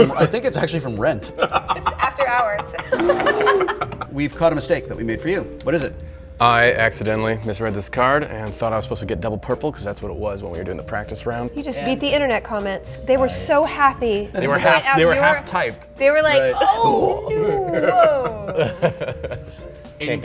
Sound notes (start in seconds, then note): 1.3 laughter